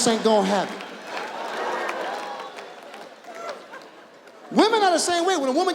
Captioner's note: audience laughs